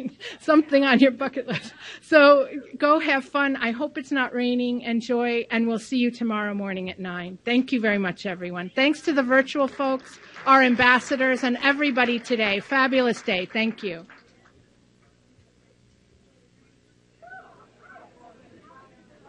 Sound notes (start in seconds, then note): 0.6 laughs; 12.3 clapping